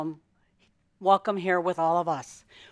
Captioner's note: none